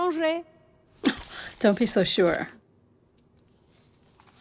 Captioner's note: woman speaking French